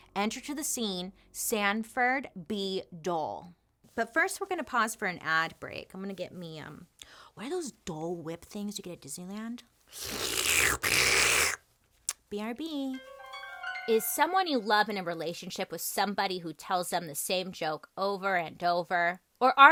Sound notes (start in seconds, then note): 9.9 slurps; 12.9 mystical music